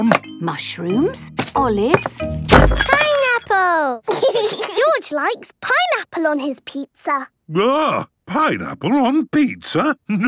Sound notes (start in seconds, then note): 1.9 bangs; 4.0 laughs